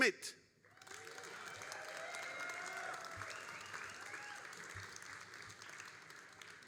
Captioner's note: all applauding and cheering